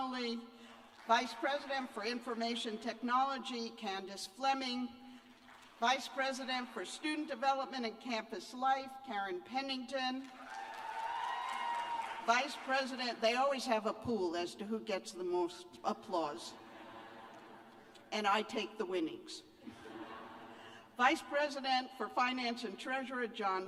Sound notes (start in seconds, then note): 10.2 cheers and applause; 16.6 laughter